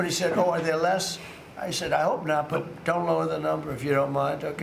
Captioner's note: laughter